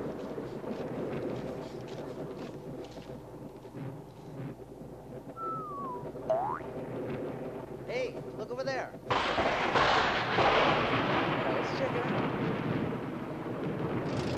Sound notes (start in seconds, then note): 0.0 footsteps approach; 5.3 whistling; 6.3 boink; 9.1 lightning strikes